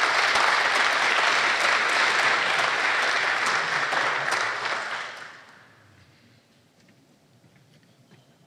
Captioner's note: applause